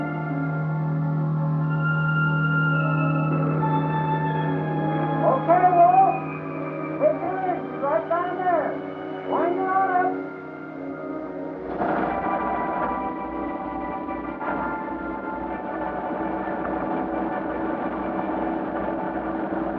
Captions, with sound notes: - Okay, Walt! Okay, she's right down there. Bring it on up. (winch grinding)